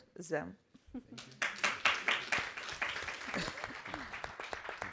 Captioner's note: all applauding